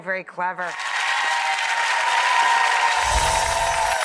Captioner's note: audience claps